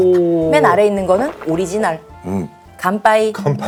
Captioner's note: mouth watering